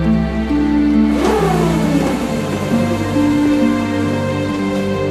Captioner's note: whirring